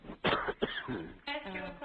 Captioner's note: cough